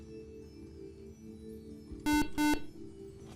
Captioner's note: beeping